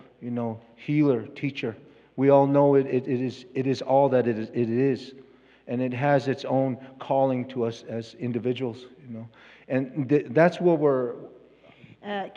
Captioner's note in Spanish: Expositor habla en inglés